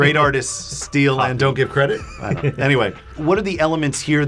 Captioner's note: laughing